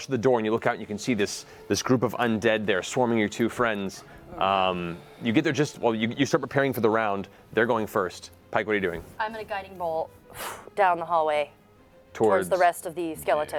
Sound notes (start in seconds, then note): none